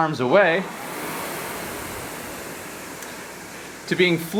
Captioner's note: rowing machine whirring